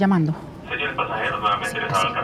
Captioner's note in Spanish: Voz en el altavoz